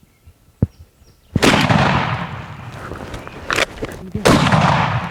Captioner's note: gun roars